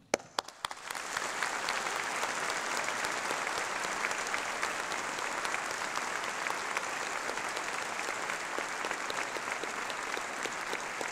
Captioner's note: applause